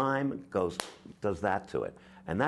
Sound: claps hands

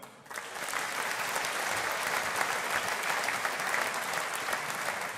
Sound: audience applauding

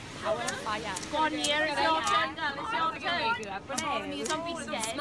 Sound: lighter clicking continues

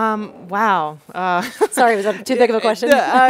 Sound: laughs

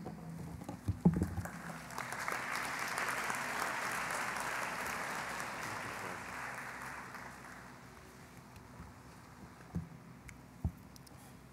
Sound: applause

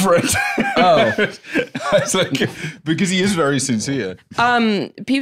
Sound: laughs

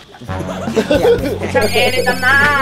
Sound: chuckles

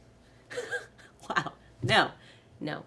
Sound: laughing

